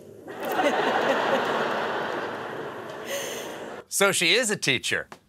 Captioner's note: laughter